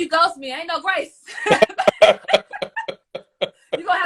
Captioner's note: laughs